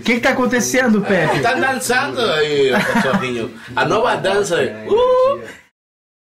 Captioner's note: laughs